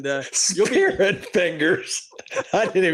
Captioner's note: laughs